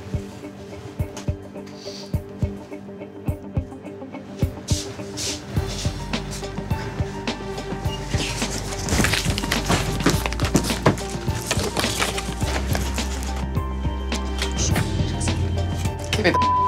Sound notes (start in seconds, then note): 2.2 tense music; 7.8 rustling